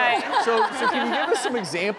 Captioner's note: laughing